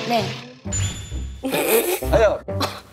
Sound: trys to hold laugh

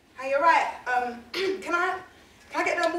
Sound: clears throat

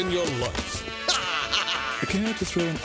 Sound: Duckman laughing

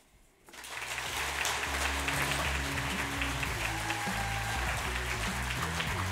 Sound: applause and music

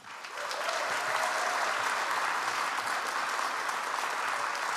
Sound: audience applauds

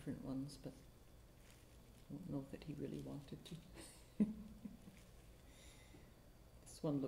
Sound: softly laughs

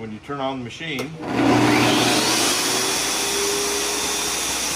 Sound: tile saw revving

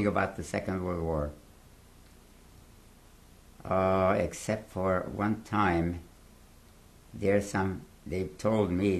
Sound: pauses for 3 seconds

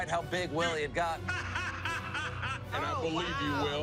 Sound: laughing

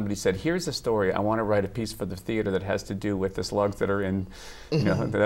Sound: laughter

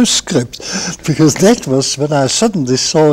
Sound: chuckles

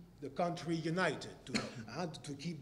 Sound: cough

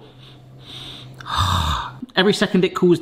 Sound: sighing

